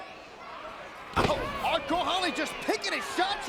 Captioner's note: mat thumping